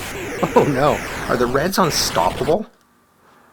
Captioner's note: chuckles